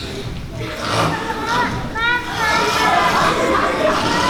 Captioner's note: loud snoring